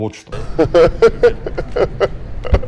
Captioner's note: Jones laughing